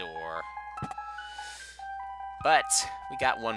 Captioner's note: inhaling